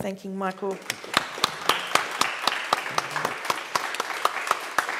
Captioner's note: attendees applauding